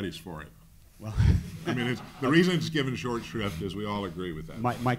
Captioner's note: laugh